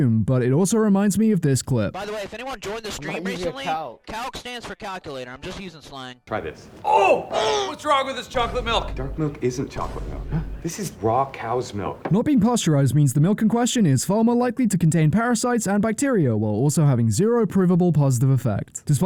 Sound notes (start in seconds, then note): 6.7 gross chocolate sounds; 9.9 Jake betrayal gasp